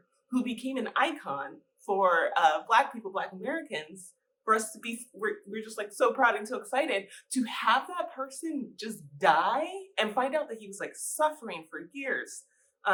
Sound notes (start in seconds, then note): none